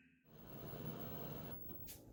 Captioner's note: TV static